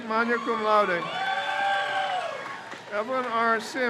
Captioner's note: crowd cheers